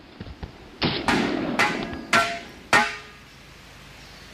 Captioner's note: bang bang bang